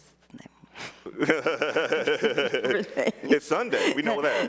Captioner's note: both laughing